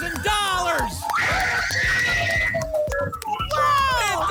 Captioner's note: applause and cheering